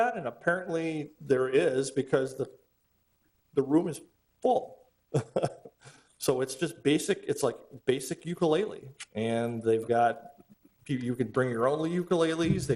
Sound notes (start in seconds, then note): 5.2 laughs